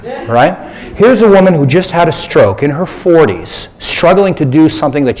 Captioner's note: laughter